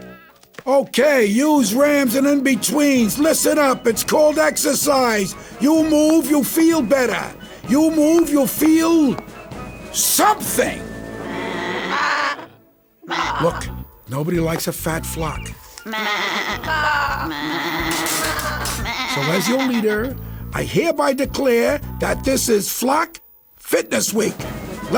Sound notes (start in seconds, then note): 11.2 baaing; 17.8 spitting